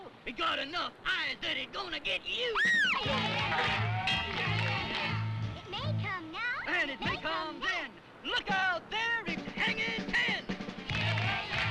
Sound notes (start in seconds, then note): 2.5 Jane screams